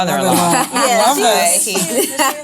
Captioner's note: laughing